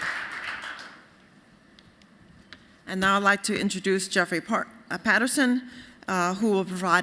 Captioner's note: applause